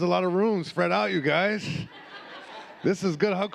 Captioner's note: audience laughing